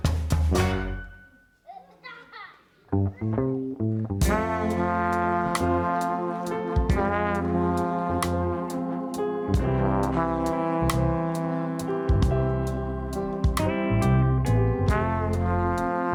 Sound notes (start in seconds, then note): 0.7 upbeat music stops; 1.6 child laughs; 3.0 steady music; 10.1 steady music continues